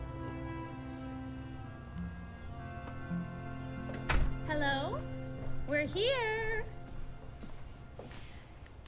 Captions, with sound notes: (door opening) - Hello! We're here!